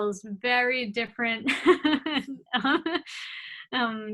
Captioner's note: laugh